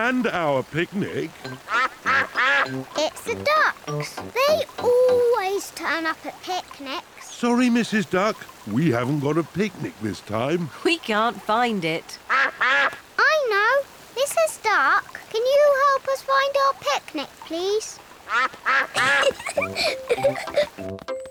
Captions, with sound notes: And our picnic. -(QUACKS) -It's the ducks! They always turn up at picnics. Sorry, Mrs. Duck, we haven't got a picnic this time. We can't find it. -(QUACKING) -I know! Mrs. Duck, can you help us find our picnic, please? -(QUACKS) -(GIGGLES)